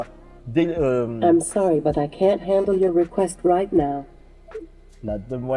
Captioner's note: vocal assistant speaking